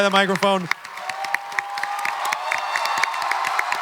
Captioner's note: audience clapping and cheering